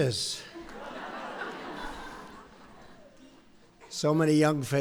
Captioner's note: laughter